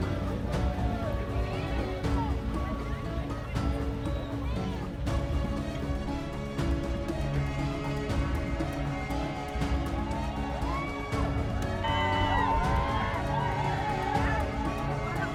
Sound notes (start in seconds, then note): 11.2 crowd cheering